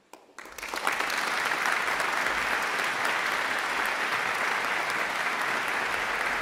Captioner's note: audience claps